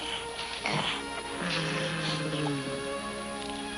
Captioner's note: ET grunting